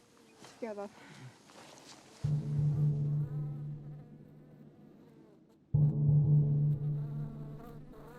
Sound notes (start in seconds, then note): 1.7 flies buzzing; 2.2 tense music